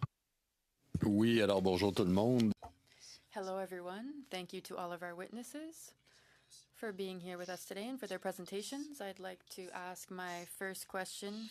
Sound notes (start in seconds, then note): 7.1 speaking French